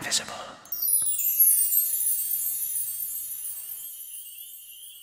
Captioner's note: chimes sound